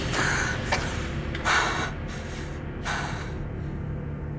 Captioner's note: breathing heavily